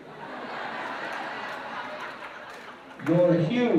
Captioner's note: laughter